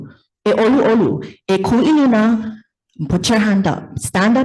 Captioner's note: speaks in foreign language